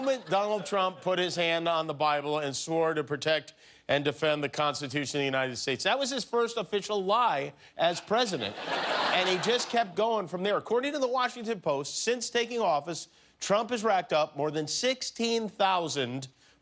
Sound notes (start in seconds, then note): 10.8 laughter